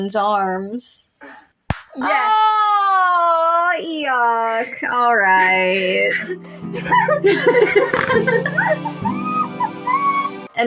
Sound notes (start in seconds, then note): 1.7 clap; 4.0 giggle; 5.3 romantic Music; 8.2 giddy Giggling; 9.9 laugh